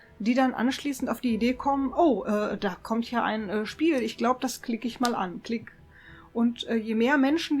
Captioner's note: click